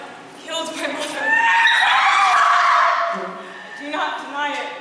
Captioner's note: CHORUS howl with laughter